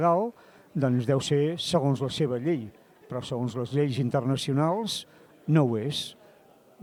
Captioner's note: Spanish